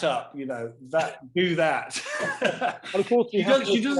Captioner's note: both laughing